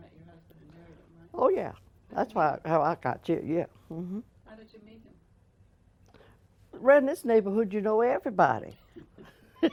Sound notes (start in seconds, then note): 8.5 laughs